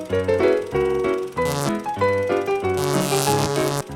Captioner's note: intermittent electric buzzing